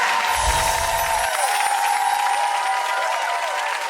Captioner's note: audience cheering; sparkly chiming